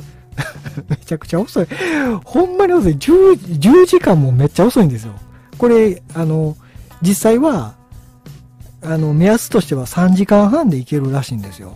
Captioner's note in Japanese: 笑い